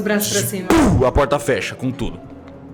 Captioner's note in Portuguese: Pow